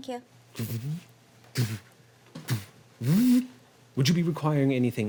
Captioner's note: mechanical whirring